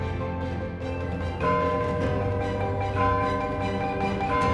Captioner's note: bell clanging